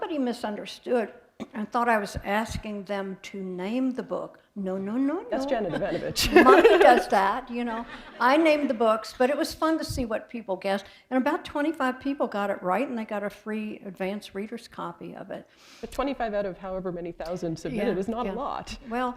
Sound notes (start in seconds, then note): 5.5 laughter